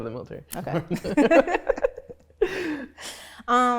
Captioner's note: both laugh